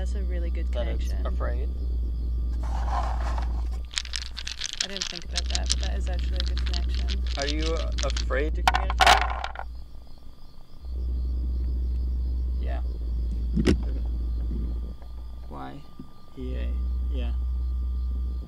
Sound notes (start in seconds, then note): 2.6 dice rattling; 8.6 dice thumping